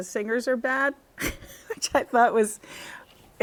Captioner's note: laughter